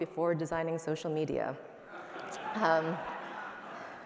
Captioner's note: laughter